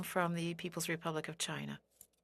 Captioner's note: speaking French